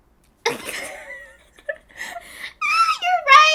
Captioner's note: both laughing